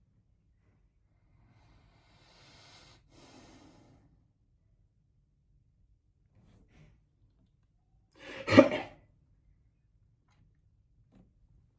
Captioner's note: coughs